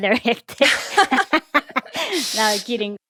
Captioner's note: laughter